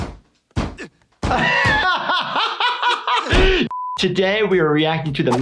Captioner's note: laughing